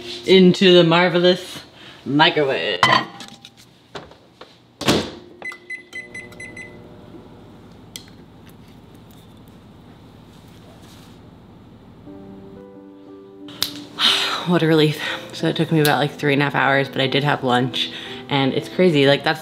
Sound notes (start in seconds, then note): 5.3 microwave beeping; 13.6 finger snapping